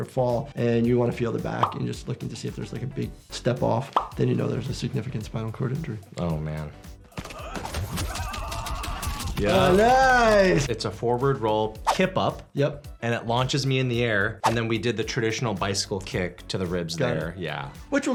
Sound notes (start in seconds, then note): 7.1 Kenshi grunts; 8.0 Kang yowls